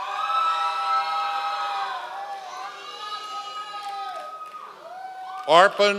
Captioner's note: members of the audience cheering